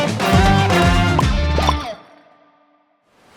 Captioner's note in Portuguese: bolhas